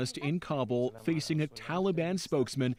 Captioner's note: speaking foreign language